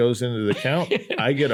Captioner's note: laughs